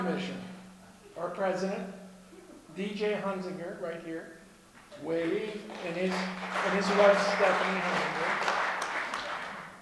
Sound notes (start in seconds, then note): 7.9 clapping